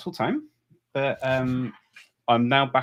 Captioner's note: chuckles